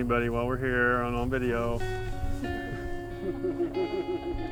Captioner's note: people laughing